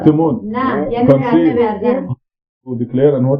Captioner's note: speaking Farsi